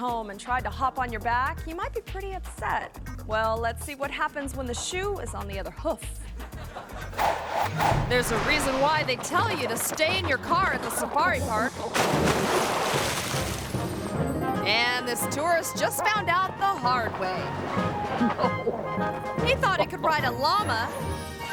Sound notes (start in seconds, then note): 6.4 audience laughing; 11.9 water splashing; 18.4 carefree music